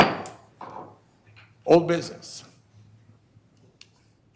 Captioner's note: gavel pounding